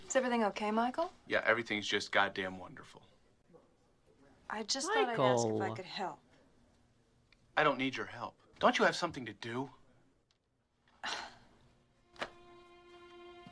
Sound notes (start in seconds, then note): 11.0 sighs